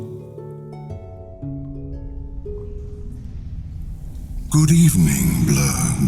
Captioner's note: cave noises